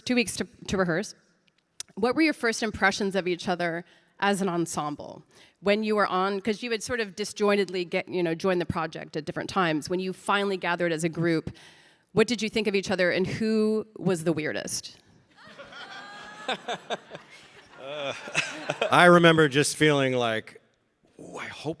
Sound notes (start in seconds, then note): 15.4 audience laughing